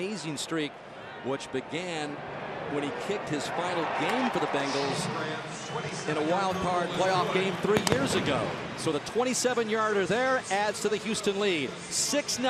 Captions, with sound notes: It's an amazing streak, which began when he kicked his final game for the Bengals-- [pa announcement] --in a wild card playoff game three years ago. So the 27-yarder there adds to the Houston lead.